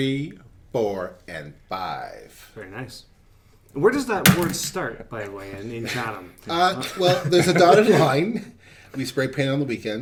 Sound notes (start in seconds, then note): 4.3 pen clatters; 6.8 men laughing